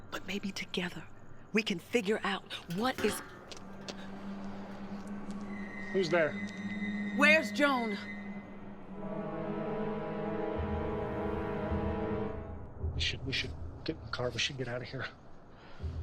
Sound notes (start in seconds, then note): 2.6 metal clanks; 5.8 dramatic music